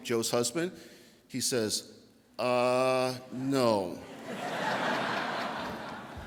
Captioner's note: audience laughter